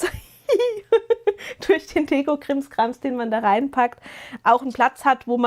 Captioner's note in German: gelächter